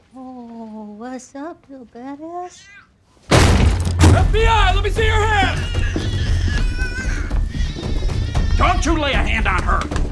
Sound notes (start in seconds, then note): 3.3 door slams; 6.7 baby crying